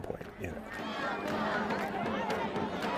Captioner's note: crowd